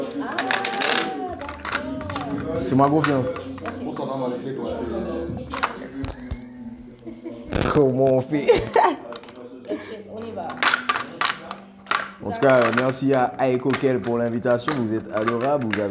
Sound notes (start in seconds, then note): 8.4 rires